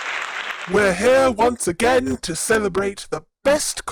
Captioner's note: applause